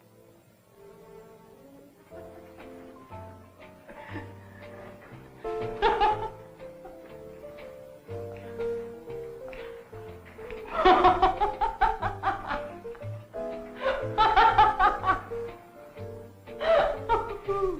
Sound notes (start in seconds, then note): 2.1 jazzy music playing on radio; 5.6 Gypsy laughing